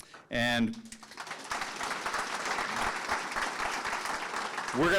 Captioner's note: audience clapping